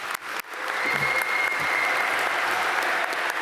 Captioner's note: applause